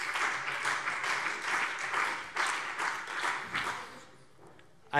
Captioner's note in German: Beifall BÜNDNIS 90/DIE GRÜNEN und CDU